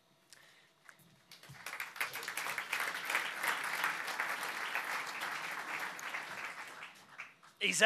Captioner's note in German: Applaus